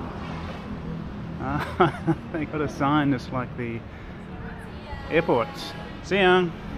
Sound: laughing

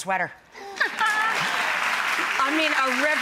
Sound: audience claps

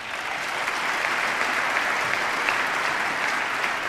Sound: applause

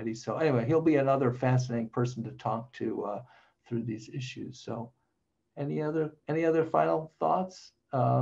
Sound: none

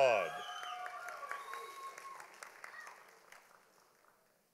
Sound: audience applauding

